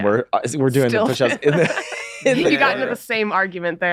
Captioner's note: laughing